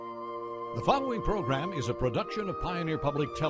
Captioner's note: soft music; voiceover